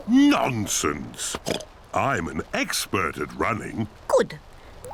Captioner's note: oinks